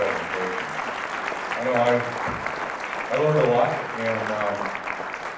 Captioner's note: applause